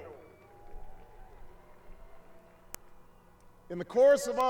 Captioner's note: applause